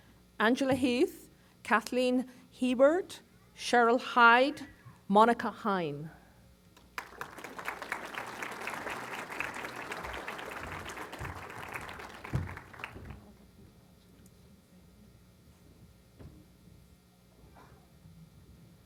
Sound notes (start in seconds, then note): 6.9 applause